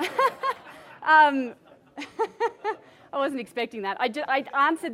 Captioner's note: participants chuckle